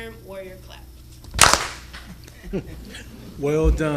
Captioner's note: clapping